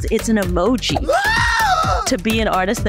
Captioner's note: painting screaming